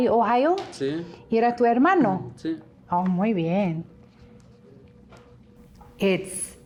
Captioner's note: speaking in a foreign language